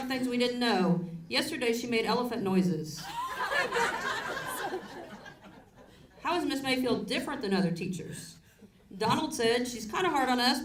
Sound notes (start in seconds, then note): 3.1 audience laughs